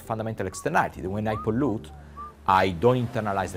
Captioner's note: worker whistling; waves crashing